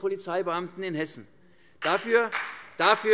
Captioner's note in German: Beifall CDU und BÜNDNIS 90/DIE GRÜNEN